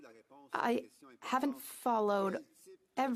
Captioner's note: speaking French